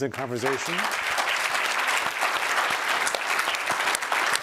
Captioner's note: applause